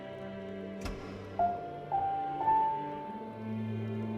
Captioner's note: piano continues; spotlight flicks on